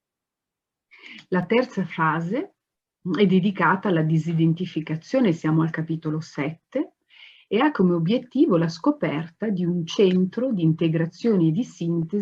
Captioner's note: speaks Italian